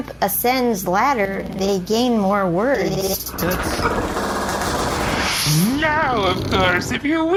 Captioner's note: fast-forwarding noise